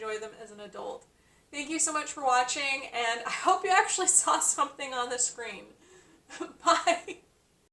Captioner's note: laughs